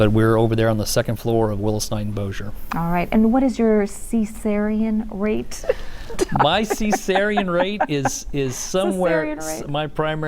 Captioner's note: chuckle